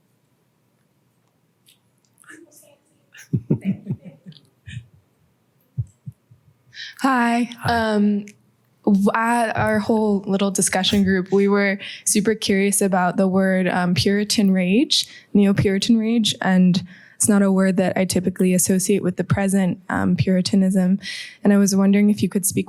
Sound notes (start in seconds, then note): 3.2 laughter